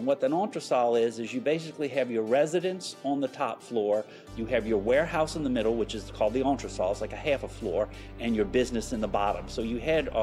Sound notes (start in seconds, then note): none